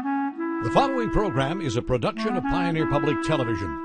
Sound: voiceover

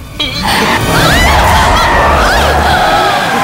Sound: tires screeching

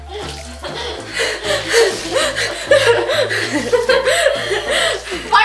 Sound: gasping, giggling

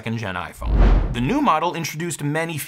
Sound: transition whooshes

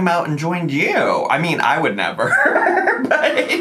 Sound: laughs

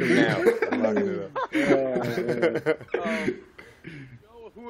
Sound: laughter

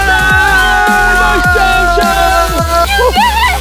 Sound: cheers loudly

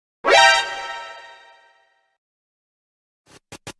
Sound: alert Sound

